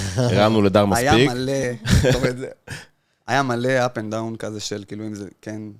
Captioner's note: laugh